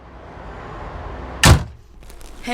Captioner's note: car door slams